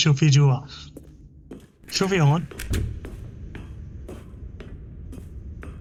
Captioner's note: footsteps